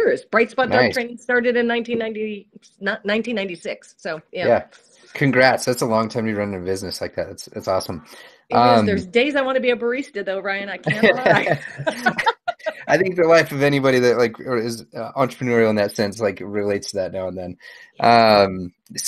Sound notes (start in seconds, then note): 10.8 laughs